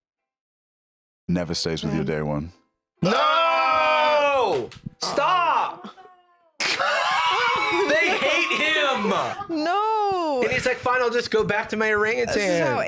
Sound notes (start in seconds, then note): 6.6 laughs